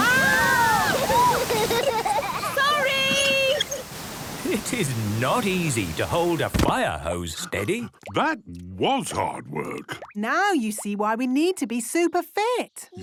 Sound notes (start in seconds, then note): 0.0 children laughing; 8.2 panting